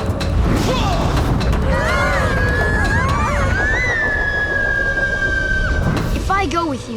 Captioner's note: grunting; screaming